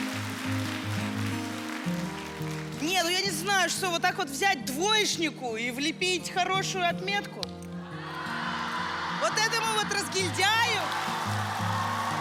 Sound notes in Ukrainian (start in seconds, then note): 0.0 оплески; 12.0 оплески